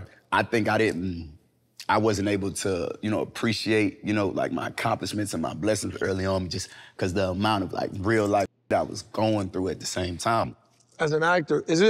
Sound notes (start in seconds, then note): none